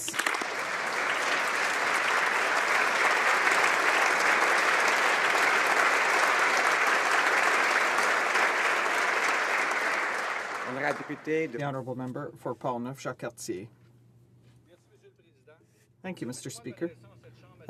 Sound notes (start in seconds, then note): 5.4 applause